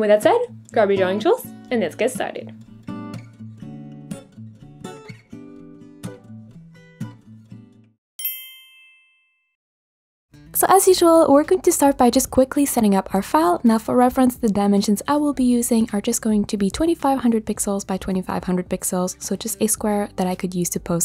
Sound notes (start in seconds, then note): 3.3 soft music; 8.2 bell chimes